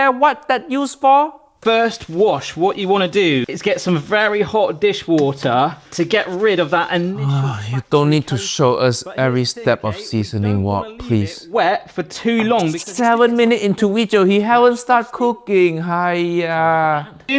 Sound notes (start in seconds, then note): 7.0 pan scrubbing; 7.2 Uncle Roger sighs